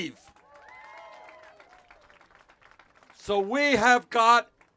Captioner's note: cheers